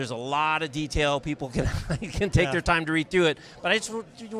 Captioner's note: laughs